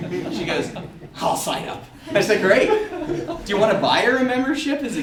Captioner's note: audeince laughter